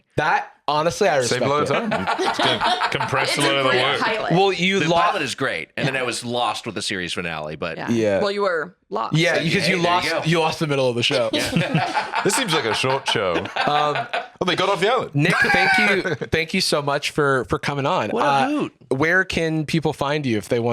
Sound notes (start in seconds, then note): 11.1 laughs